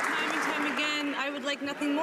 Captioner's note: some Applause